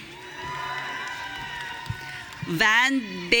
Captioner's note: audience cheering